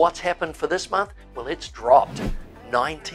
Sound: air whooshing

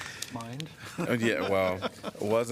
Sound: laughter

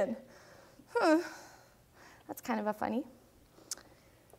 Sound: whimpers

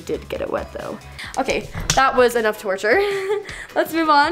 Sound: laughs

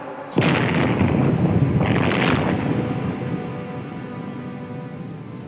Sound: explosion

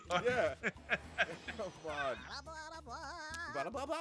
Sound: laugh

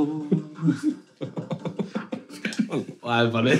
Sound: laughing

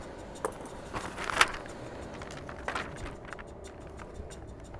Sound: paper rustling

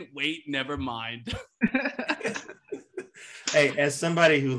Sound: all chuckle

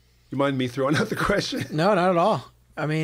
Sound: chuckle

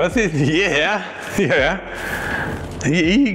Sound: laughs

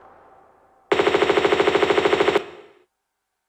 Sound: bratatatatata

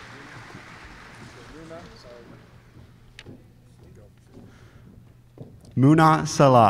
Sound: applause

